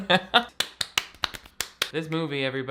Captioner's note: clapping